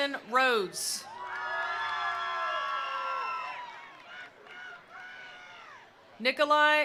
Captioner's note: attendees cheering; attendees applauding